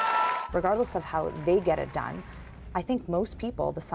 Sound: cheers and Applause

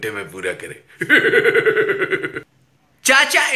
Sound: Zardari Laughs

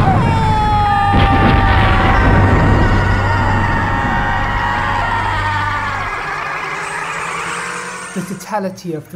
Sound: shodan screams

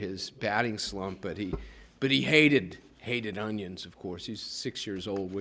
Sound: none

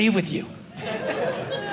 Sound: audience laughing

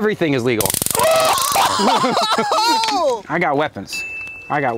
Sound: taser buzzing

